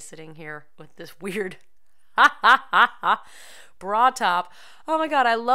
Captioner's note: laughter